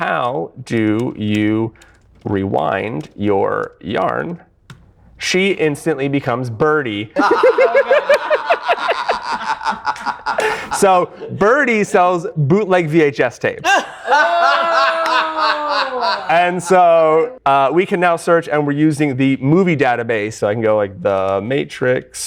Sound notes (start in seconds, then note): 9.5 laughter; 15.8 laughter